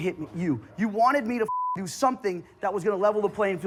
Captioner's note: beep